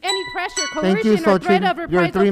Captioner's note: chiming